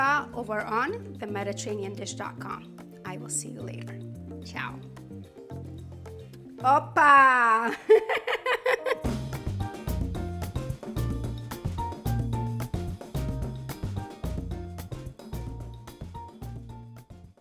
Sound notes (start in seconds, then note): 7.6 laughs; 8.8 upbeat music